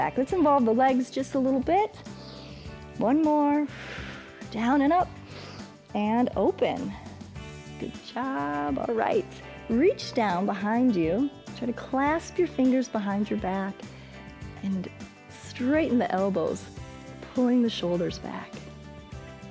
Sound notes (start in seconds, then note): 2.1 exhales; 5.2 inhales